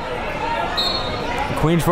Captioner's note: whistle blows